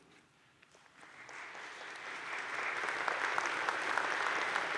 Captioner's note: audience claps